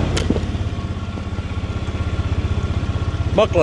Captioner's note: engine revving